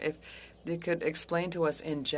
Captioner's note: speaking French